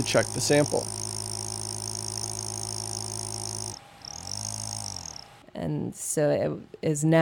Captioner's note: sound of the machine buzzing